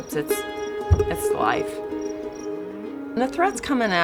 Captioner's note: cattle bellowing